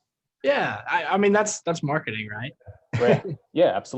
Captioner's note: laughs